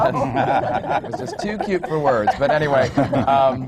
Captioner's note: laughter